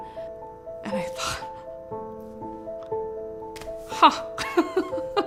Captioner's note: laughs